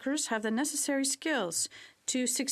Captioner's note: speaking French